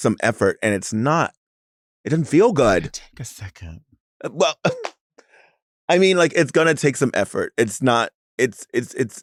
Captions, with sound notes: and it's not, it doesn't feel good! - It's gonna take a second! - Well (laughs). I mean like, it's gonna take some effort. It's not, it's hard.